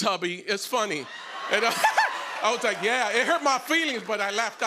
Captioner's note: laughter